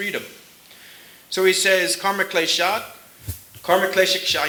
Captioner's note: speaking sanskrit